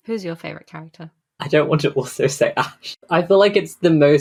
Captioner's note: laughing